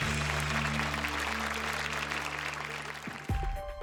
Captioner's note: applause